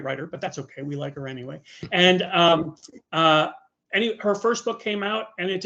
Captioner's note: chuckling